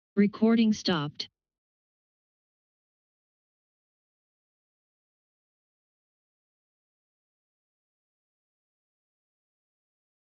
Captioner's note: silence